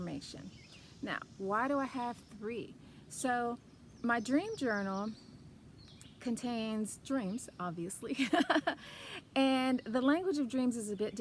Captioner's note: laughs